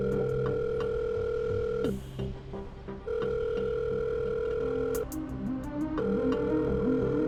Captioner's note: suspenseful music; phone dialing